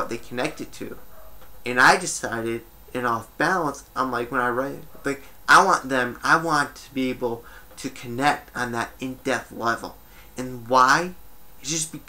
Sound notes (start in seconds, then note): 1.0 dog barks in background